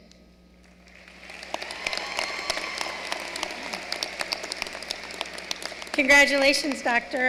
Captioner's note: applause